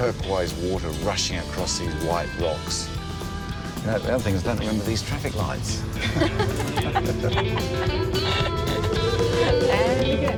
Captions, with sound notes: rushing across these white rocks. The only thing is, I don't remember these traffic lights. -[laughter]